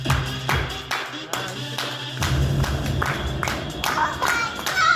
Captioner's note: audience clapping to music slowly fades